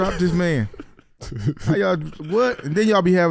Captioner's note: laughing